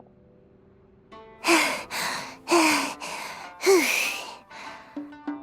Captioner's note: panting